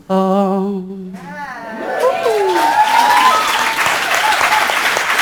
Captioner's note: audience cheering